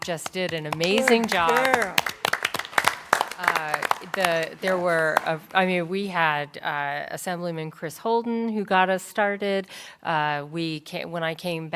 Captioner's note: applause